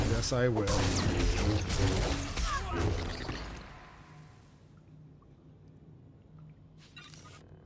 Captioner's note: gunshots